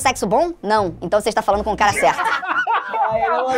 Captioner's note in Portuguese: risadas